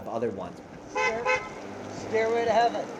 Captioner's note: car honking